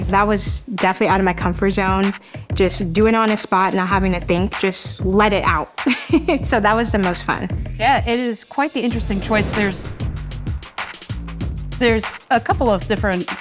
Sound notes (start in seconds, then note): 5.8 chuckling